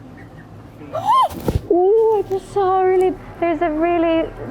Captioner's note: gasps